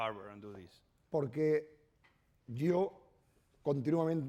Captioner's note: speaking spanish